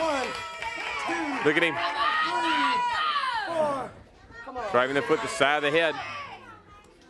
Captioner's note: crowd chatter